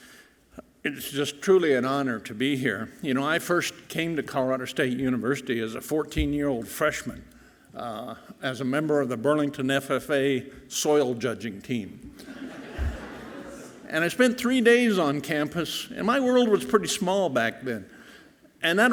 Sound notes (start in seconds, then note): 12.1 audience laughing softly